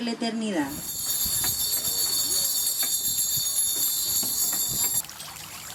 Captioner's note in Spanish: Campanas